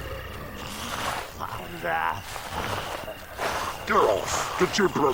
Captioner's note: zombies growling